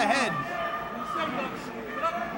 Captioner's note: crowd chatter